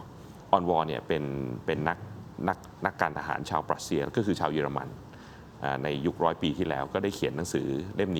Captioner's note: German